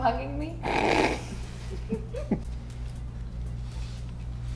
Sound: all laughing

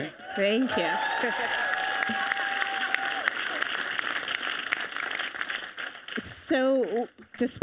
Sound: audience cheering

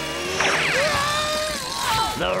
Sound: screaming

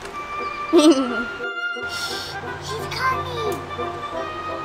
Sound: assistant chuckling

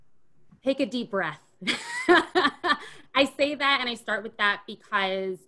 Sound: laughs

